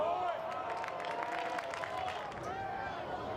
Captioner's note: fans cheer